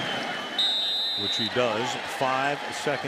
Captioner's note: whistle